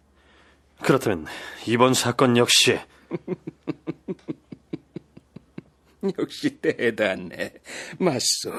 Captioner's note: laughs